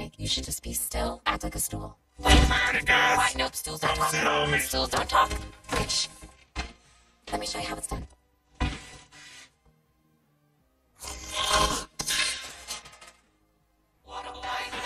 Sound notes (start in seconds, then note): 11.0 spits